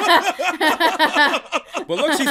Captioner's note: laughter